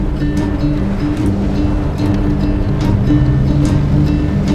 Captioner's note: engine rumbling